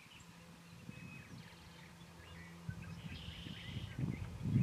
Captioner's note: birds chirping